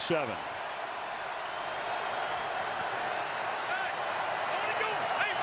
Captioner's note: cheering